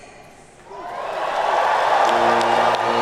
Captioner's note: audience cheering